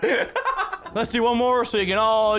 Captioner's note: laughs